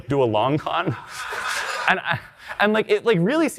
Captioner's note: audience laughing